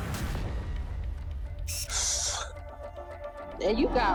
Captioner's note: sighs